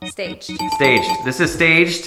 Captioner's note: bell ringing